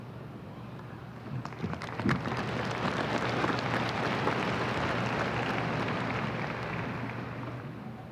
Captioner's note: applause